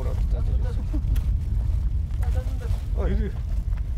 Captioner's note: foreign language